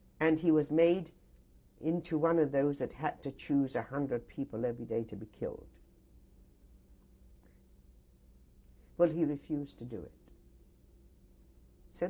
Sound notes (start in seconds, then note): 5.8 pauses for 3 seconds